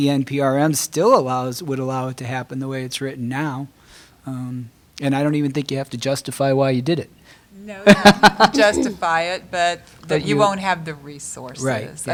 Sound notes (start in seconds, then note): 7.8 laughter